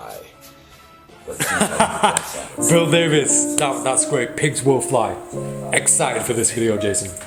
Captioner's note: laughs